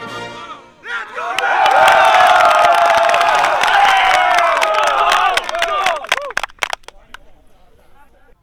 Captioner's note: cheering and Applause